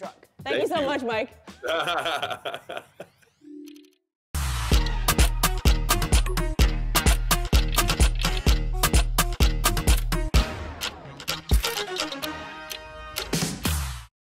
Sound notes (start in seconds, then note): 1.6 laughs